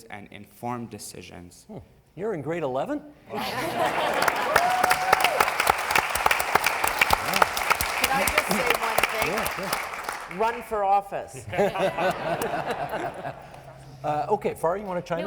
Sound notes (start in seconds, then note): 3.4 cheering and applause; 11.4 laughing